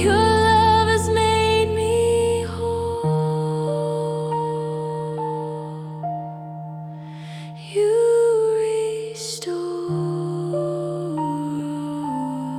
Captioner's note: vocal echo — soft, breathy